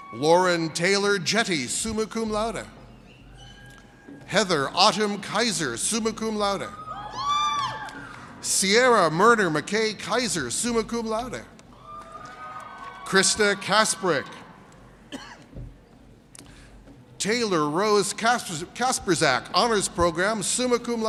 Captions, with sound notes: Lauren Taylor Jetty, summa cum laude. Heather Autumn Kaiser, summa cum laude. (audience cheers) Sierra Murder McKay Kaiser, summa cum laude. (audience cheers) Christa Kasperic. Taylor Rose Kasperzac, Honors Program, summa cum laude.